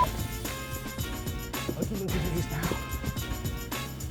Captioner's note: muttering